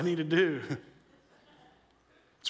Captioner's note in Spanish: risas